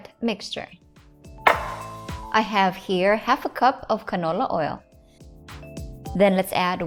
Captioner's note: cup thuds